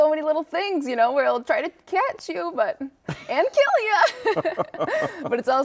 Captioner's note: laughs